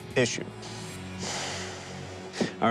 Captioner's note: sighs